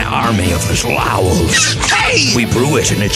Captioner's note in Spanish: chillando